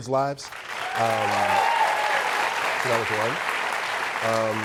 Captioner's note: applause and cheering